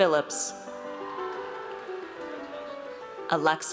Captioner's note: audience cheers